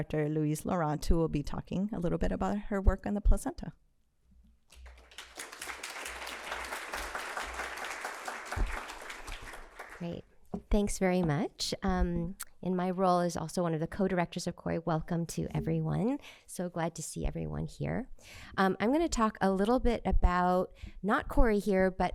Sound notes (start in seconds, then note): 6.4 applause